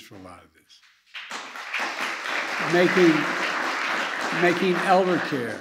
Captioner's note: applause